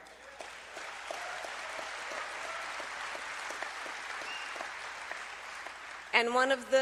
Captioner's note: applause